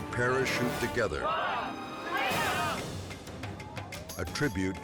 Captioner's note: group shouting